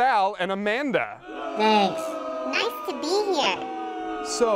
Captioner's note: audience booing in background